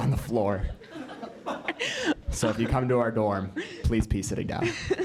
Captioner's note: laugh